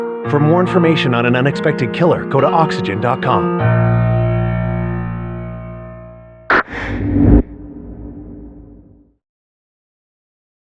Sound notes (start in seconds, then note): 6.5 person ininhales; 8.8 eerie m music